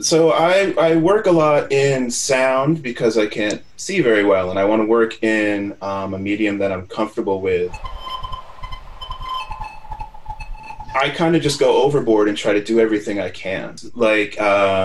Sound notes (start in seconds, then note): 7.6 high pitched, intermittent tones